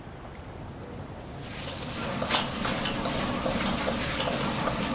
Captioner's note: city sounds fade to sizzling pan sounds